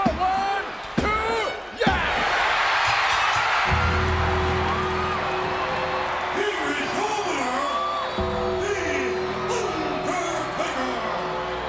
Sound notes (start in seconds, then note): 2.2 audience cheering; 2.2 bell rings